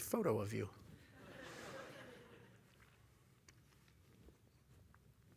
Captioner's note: laughter